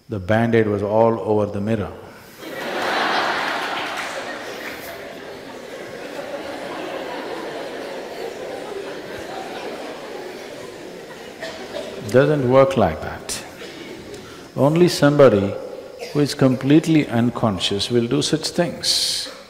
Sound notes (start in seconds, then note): 2.4 laughter/Applause